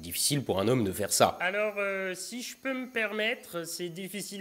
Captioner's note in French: Voix de fond